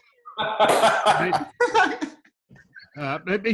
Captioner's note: group laughs